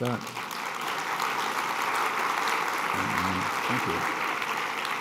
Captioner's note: applause